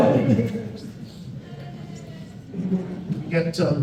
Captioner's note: crowd laughs